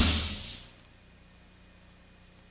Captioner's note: air whooshing